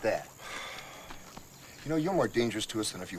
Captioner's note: Dash sighs